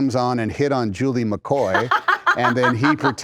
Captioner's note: laughter